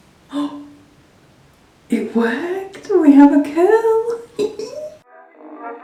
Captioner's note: gasps